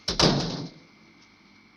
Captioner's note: door banging